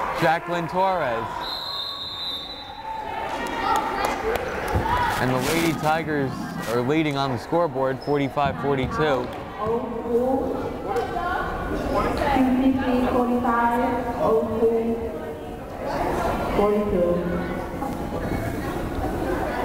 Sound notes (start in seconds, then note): 1.4 whistle blows; 3.2 crowd cheering